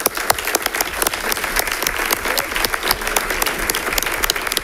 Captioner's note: audience applauding